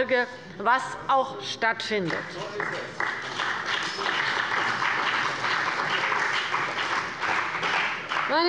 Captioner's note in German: Beifall bei der CDU und dem BÜNDNIS 90/DIE GRÜNEN